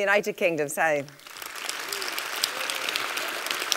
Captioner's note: applause